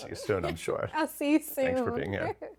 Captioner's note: laughs